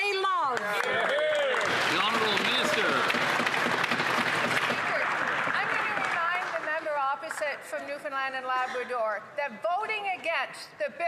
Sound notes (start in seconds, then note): 5.8 some Applause